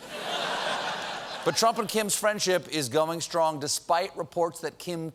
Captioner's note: laughter